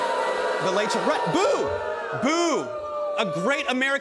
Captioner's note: crowd boos